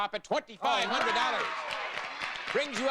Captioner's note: audience applauding